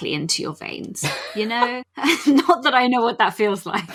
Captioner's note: laughs; laughing